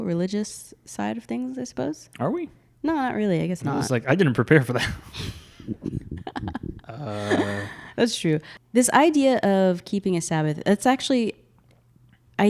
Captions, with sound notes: religious side of things I suppose. - Are we? - No, not really, I guess not. - I was, like, I didn't prepare for that. (laughs) - That's true. This idea of keeping a Sabbath, it's actually,